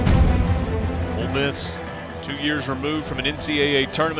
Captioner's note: suspenseful music; voiceover